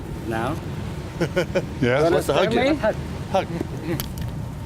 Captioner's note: laughs